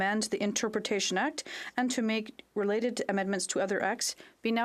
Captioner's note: speaking French